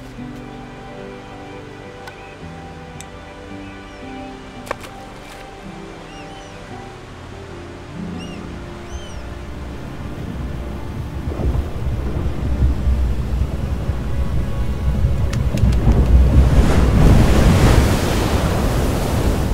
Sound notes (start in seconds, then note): 0.2 paper crinkles; 4.8 bottle splashes; 7.5 dramatic music; 7.5 earth quakes; 15.4 feet shuffle; 16.6 water crashes